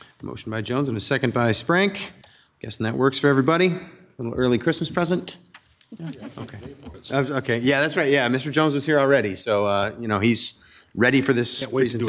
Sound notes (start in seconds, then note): 5.9 people chuckle; 7.1 speaking distantly